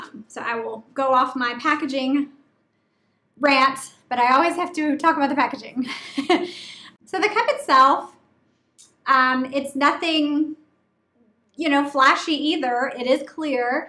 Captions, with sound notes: So I will go off my packaging rant, but I always have to talk about the packaging. (laughing) So the cup itself, it's nothing flashy either, it is clear.